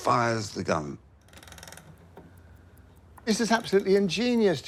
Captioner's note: machine cranks